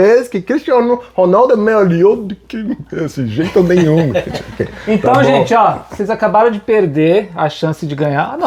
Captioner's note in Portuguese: risadas